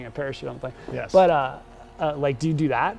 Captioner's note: laughs